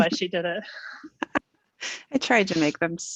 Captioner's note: laughing